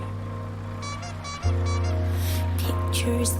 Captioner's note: horn squeaking